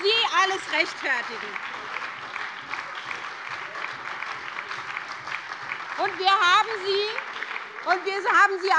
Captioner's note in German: Beifall bei der SPD und der FDP sowie bei Abgeordneten der LINKEN